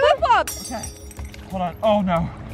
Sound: glass breaking

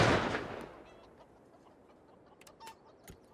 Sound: chickens clucking

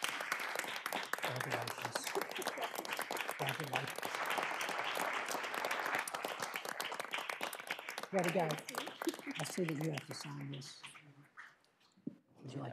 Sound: applause

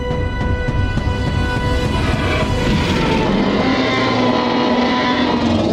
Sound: roaring

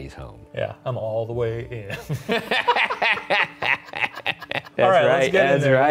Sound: both laughing

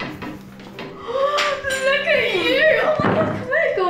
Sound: gasping

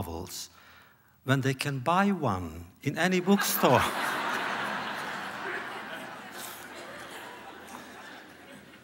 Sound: laughter

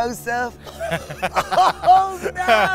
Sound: laughs

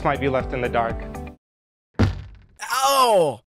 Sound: thud

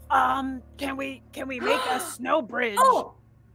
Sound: gasps

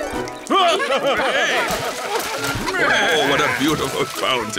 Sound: laughter

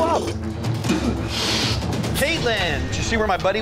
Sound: spitting

